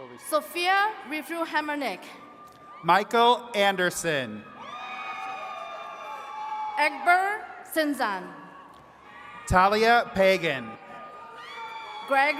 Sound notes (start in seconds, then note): 4.5 attendees cheering and clapping; 10.4 attendees cheering